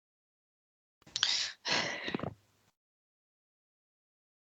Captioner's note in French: respiration agacée